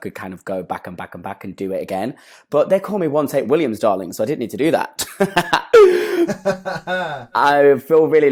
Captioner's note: both laugh